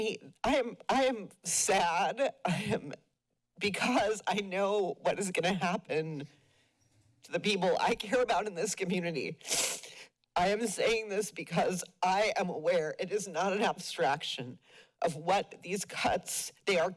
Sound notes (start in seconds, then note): 9.5 sniflles